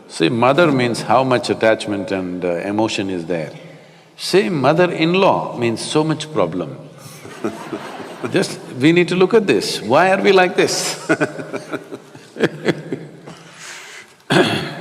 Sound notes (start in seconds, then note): 7.1 Matthew laughs; 10.8 both laugh